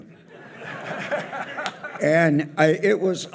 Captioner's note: audience laughs